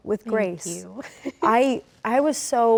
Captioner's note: laughs